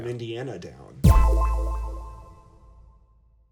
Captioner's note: chime echoing